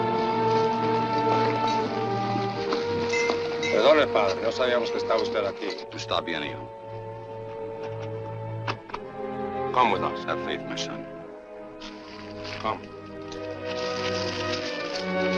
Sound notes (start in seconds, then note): 3.3 speaks Spanish; 5.4 priest speaks Spanish